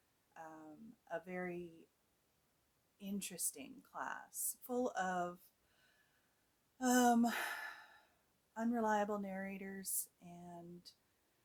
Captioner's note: sighs